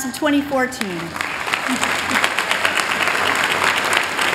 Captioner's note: applause